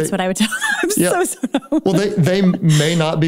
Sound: laughs

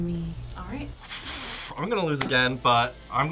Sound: sighs

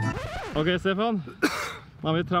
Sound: cough

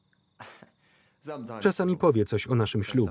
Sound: laughs

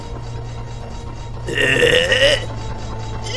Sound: grumble

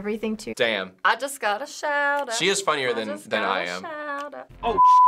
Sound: singsong

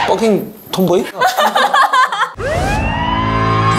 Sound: hahahaha

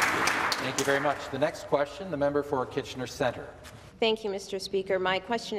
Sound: some Applause

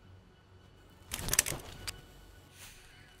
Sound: gun Clicks

